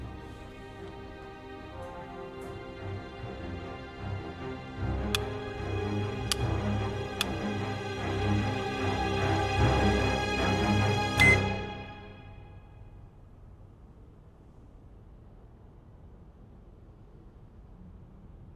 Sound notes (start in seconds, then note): 0.1 tense music; 9.8 tense music continues; 11.2 bomb beeping